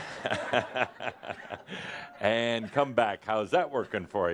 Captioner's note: chuckles